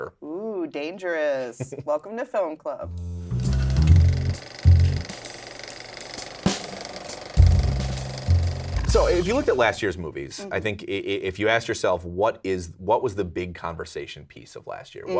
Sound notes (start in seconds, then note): 2.9 smooth jazz music; 3.5 film reel clicking